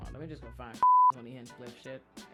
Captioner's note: beep